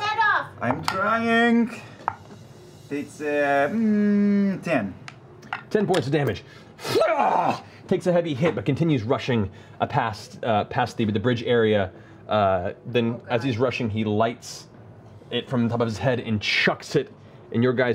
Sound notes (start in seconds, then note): 6.8 yells